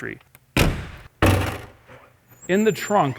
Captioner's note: car doors slamming